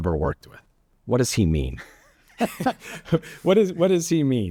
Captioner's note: both laughing